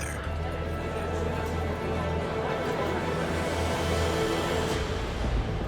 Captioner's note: chattering voices